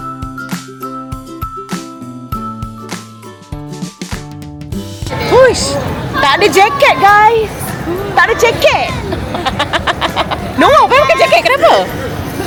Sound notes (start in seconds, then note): 8.3 laugh